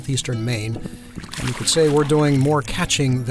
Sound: fish flopping in water

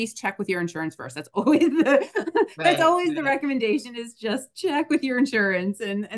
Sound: laughs

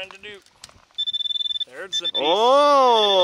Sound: pointer pings

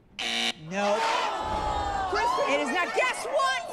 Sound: buzzer blares

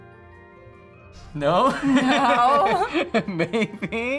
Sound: laughs; chuckles

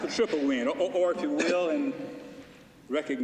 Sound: laughter

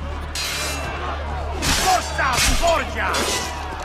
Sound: fighting sounds

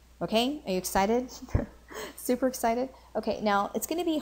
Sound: chuckles

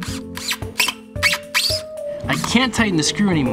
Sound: whirring; squeaking

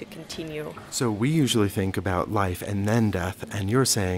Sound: voiceover

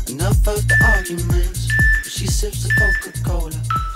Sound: beeping sound

